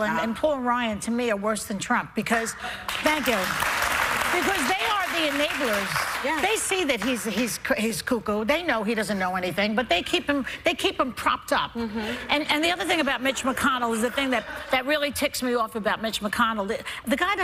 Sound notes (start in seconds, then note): 4.6 applause